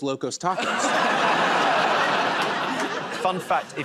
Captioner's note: laughter